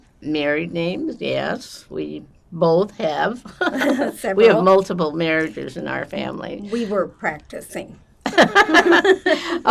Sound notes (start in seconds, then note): 3.5 laughing; 8.3 laughing